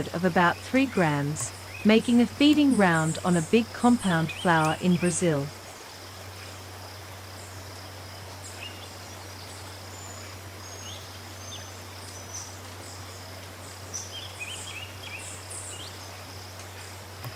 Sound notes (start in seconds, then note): 5.9 birds chirping